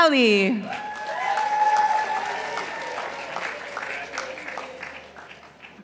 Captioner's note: participants applauding